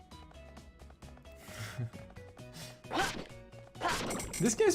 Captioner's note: chuckles